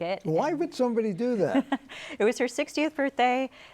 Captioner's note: chuckles